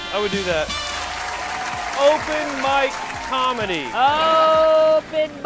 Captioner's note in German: applaus